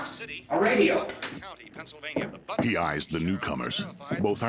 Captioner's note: radio